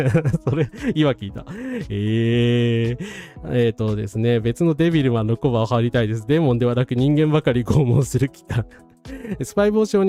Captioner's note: laughs